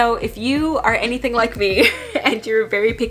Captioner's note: laughing